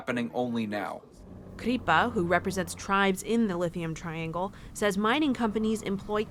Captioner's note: voice-over